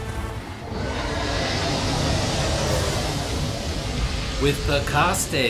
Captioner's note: thunder